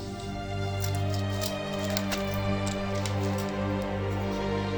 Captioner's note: metal tags clinking